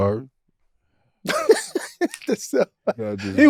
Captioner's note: Cuttino laughing